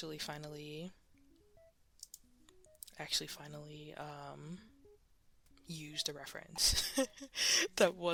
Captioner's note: mouse Click; laughs